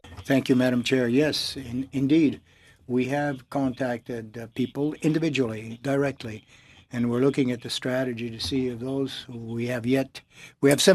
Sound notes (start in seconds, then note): 4.7 speaking French